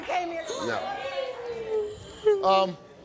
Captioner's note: crying